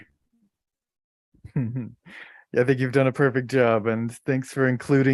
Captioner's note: chuckles